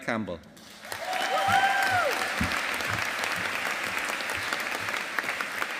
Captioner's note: audience applauding